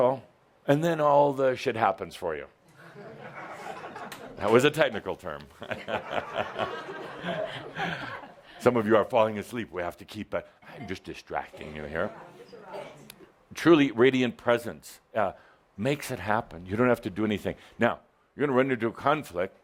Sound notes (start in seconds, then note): 5.6 Adamus chuckles; 5.7 some laughter